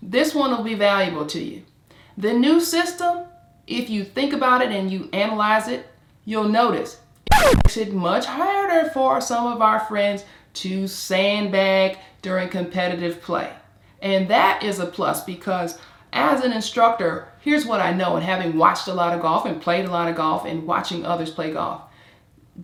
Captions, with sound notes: this one will be valuable to you. The new system, if you think about it and you analyze it, you'll notice... (screeching) It makes it much harder for some of our friends to sandbag during competitive play and that is a plus because as an instructor, here's what I know in having watched a lot of golf and played a lot of golf and watching others play golf,